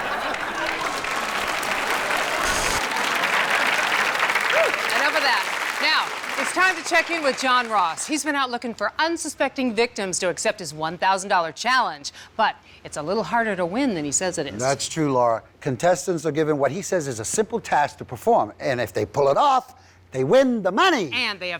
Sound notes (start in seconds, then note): 0.0 audience applauds